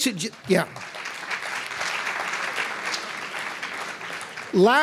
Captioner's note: applause